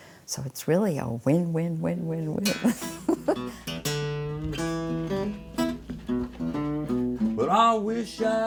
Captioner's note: laughs